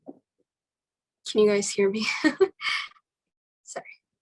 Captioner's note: laughing